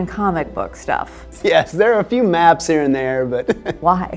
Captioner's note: chuckles